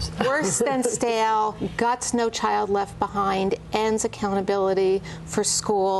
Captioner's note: laughter